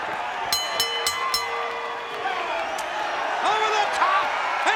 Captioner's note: bell dinging